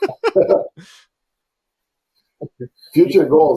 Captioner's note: laughs